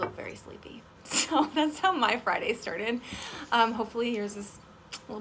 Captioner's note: laughs